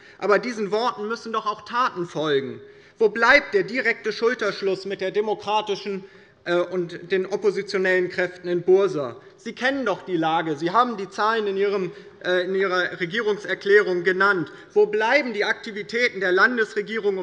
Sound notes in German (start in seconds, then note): none